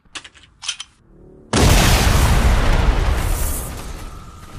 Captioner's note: explosion